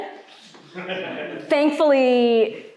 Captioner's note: audience laughing